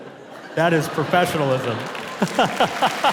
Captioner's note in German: lacht; Publikum applaudiert